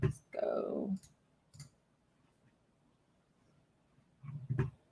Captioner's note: computer mouse clicking